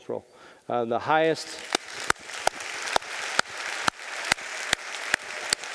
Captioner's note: audience applauding